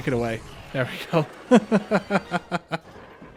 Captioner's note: laughter